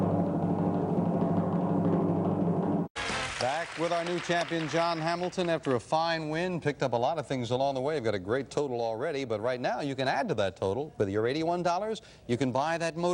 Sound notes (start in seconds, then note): 2.3 theme music playing; 2.9 applause